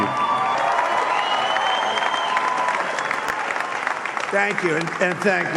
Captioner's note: applause